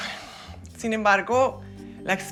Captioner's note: suspira